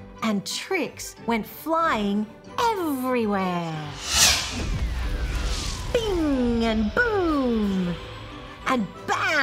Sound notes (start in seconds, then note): 3.8 magic whooshes